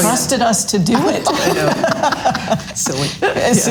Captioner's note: all laughs loudly